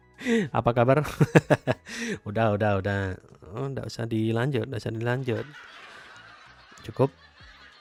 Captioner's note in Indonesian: tertawa